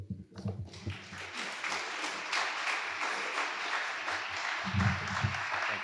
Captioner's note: audience applauding